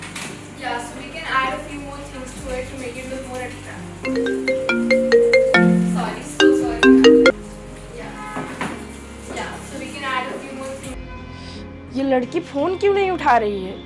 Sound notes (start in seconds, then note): 3.7 Phone ringing